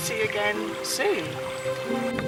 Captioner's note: birds singing